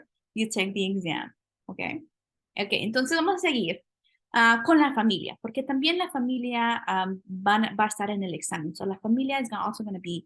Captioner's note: speaking spanish; spanish